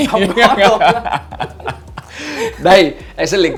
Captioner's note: laugh